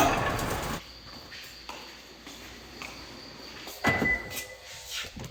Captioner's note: the sounds of crickets always welcome